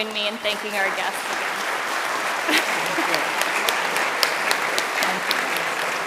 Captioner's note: audience applauds